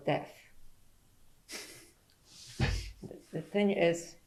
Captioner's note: laughs